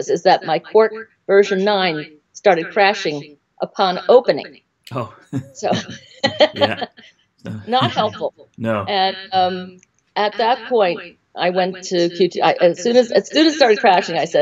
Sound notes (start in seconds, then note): 4.9 laughs